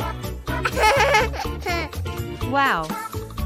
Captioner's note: giggling